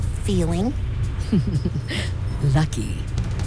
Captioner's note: laugh